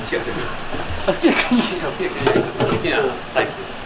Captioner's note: laughs